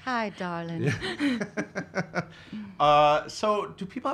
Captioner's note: laughs